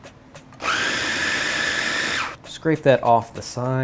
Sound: whirring

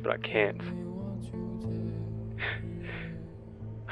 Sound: holds in tears

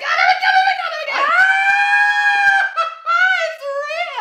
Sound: screams for yeezus

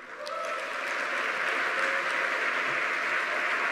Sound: audience clapping

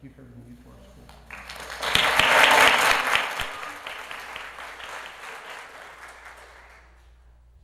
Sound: applause

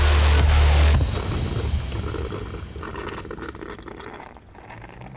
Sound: coffee percolating

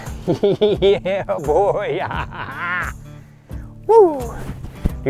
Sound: laughs

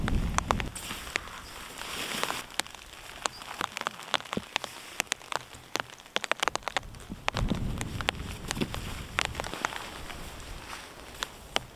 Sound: rain sounds

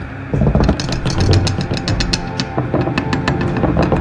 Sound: footsteps thumping; knife rattling

